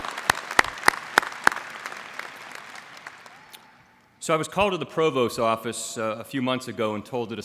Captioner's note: applause